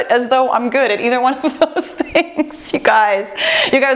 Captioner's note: laughs